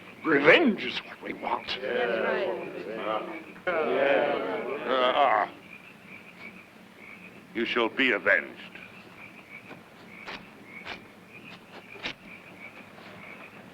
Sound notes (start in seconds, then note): 5.8 insects chirping; 9.6 footsteps pattering